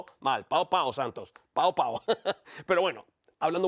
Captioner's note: laugh